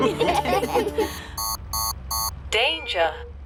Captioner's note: laughter; beeping